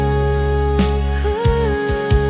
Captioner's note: sigh~